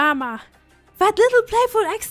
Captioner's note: none